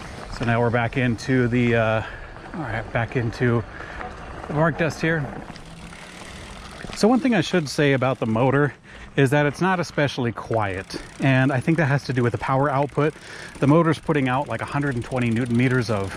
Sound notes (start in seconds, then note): none